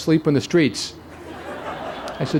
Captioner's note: laughter